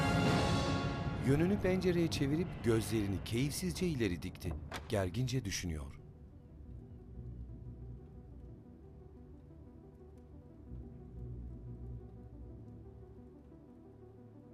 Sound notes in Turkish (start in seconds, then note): 4.4 Kapı açılma sesi; 6.7 Müzik - Gerilim